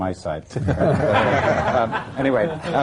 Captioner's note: laughter